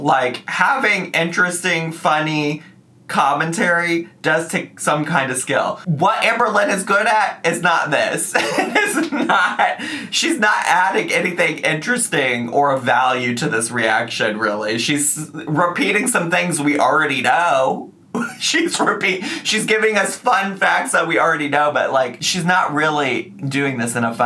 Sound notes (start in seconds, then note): 18.2 laughs